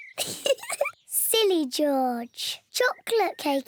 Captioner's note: laughs